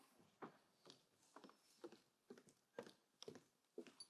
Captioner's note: footsteps clicking